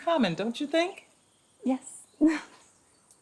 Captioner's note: giggles nervously